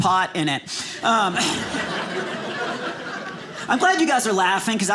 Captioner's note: audience laughing